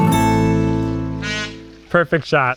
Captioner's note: jaunty guitar music plays; peacock honks